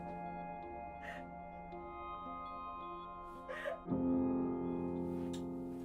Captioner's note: solemn instrumental music; sobbing